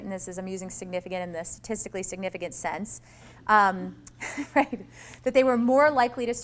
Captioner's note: laughs